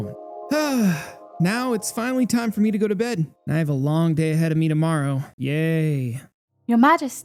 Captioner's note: sighs